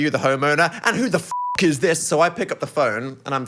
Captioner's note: beep